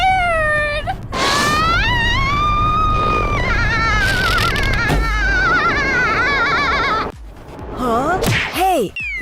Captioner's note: Bell screaming